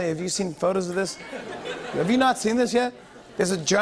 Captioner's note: laughter